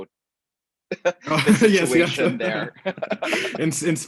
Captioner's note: laughs